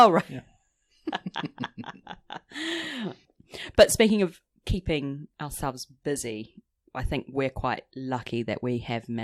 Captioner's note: laughs